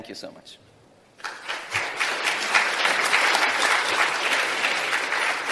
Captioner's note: applause